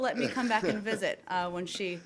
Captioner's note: laughter